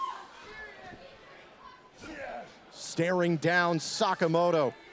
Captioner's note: crowd chatter